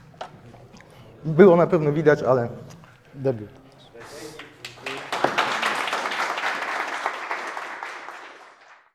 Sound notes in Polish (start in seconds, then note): 7.3 Aplauz